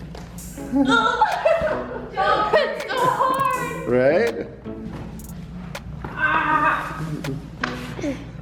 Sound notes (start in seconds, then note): 0.9 grunting and laughing